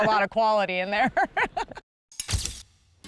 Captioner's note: laughing